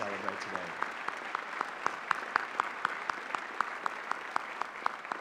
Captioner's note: applause